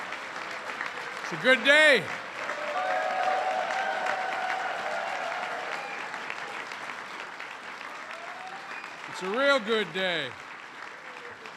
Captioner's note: applause